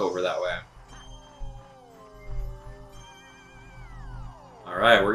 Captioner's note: gaming sounds; instrumental music